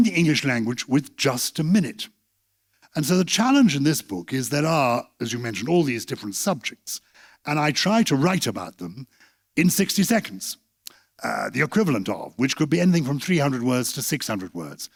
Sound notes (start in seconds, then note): none